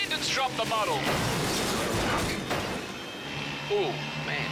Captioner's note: motorcycles clash